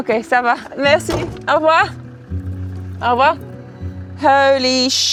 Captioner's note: speaks in foreign language